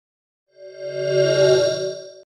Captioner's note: swoosh